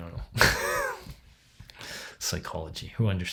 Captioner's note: laughs